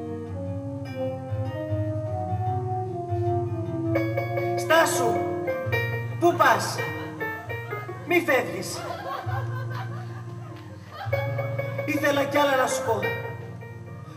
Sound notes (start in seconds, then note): 8.5 γέλια κοριτσιών